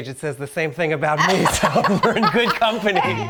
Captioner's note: Marcela laughs